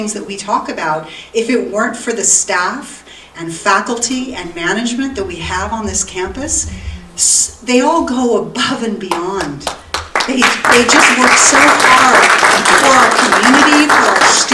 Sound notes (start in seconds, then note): 9.1 audience applauding